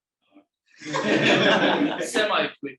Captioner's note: audience laughing